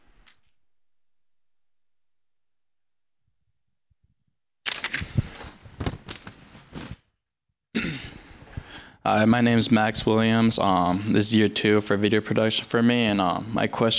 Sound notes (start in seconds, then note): 1.9 clears throat; 1.9 microphone static